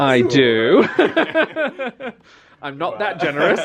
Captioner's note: they laugh